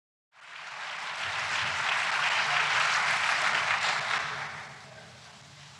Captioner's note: applause